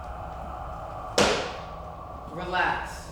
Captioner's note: footsteps stomps